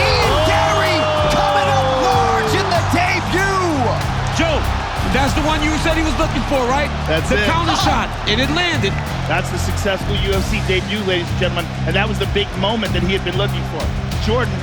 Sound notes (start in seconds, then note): 7.3 laughing